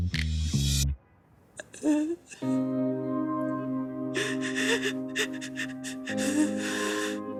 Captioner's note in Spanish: Sollozos